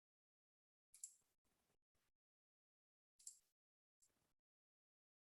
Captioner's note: computer mouse clicking